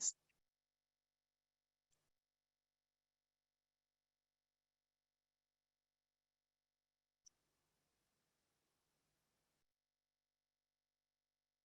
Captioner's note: silence